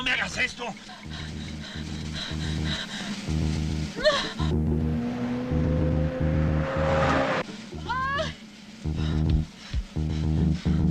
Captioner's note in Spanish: Respiración agitada